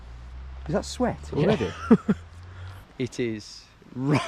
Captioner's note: laughs